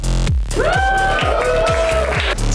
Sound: cheering

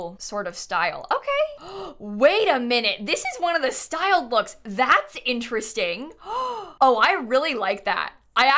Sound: gasps

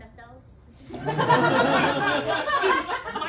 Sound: laughter

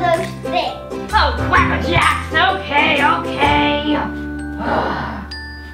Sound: sighs

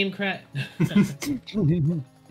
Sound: giggles; laughs

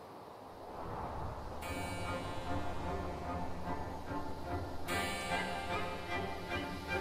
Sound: wind whips

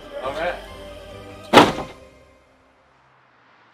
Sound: door slams

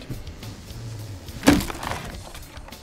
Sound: wood breaking noise

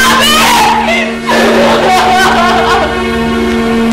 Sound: crying

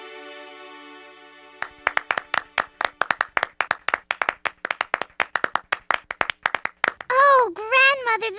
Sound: clapping

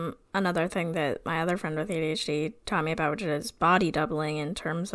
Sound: none

